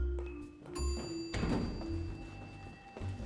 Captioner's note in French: cloche d'ascenseur